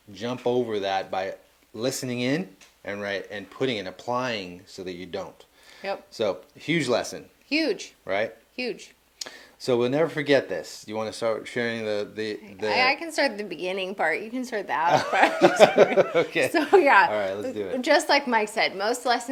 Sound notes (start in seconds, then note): 14.8 laughing